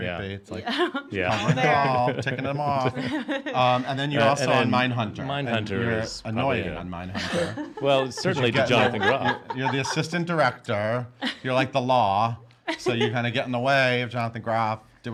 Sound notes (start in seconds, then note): 3.3 laughing